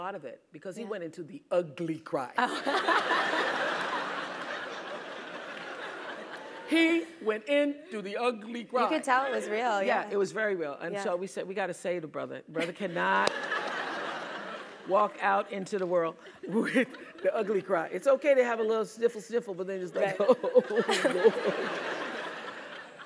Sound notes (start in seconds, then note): 7.9 laugh